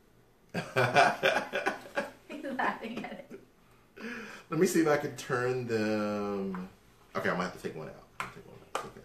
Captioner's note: laughter